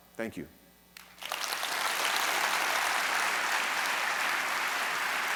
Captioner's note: audience clapping